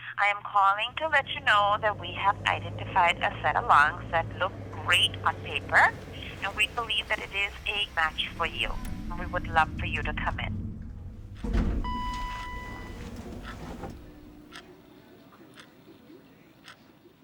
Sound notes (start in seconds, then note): 11.8 dinging